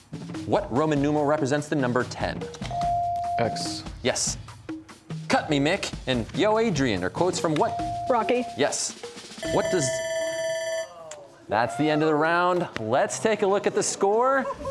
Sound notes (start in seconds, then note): 9.4 bell ringing; 11.6 audience exclaiming